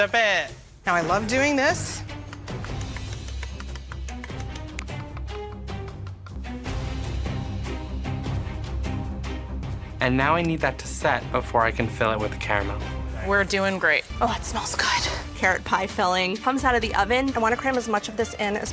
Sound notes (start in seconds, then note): 2.2 tapping; 5.5 dramatic music